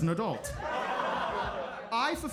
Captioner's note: audience laughs